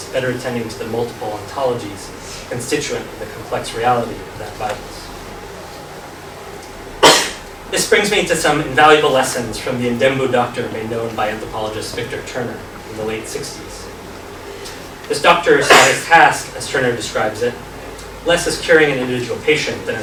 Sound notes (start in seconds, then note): 4.9 coughs